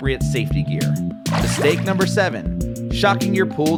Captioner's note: water splashes